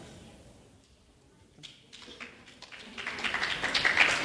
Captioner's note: clapping